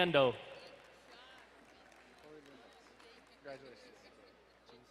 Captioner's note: quietly speaking